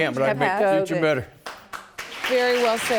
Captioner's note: applause